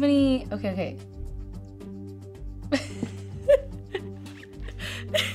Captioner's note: laughing